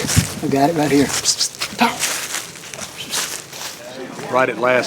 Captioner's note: whistling